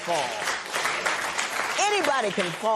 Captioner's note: applause